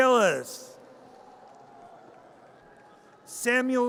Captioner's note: audience cheers